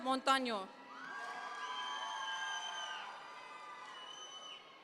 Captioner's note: audience members cheer